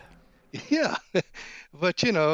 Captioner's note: laughs